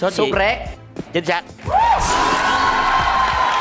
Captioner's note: yelling and Clapping